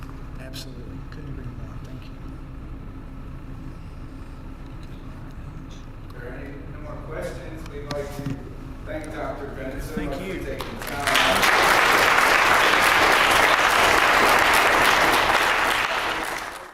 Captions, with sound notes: Absolutely, couldn't agree more, thank you. >> If there are no more questions, we'd like to thank Dr. Benson for taking time- >> Thank you. >> [APPLAUSE]